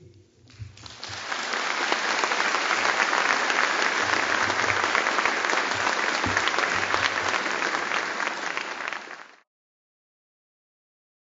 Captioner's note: applause